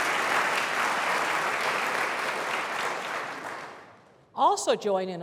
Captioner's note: applause